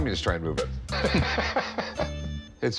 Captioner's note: laughter